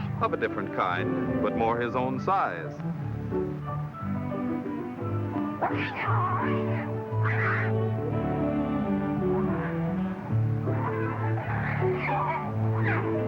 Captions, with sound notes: of a different kind but more his own size. [growling]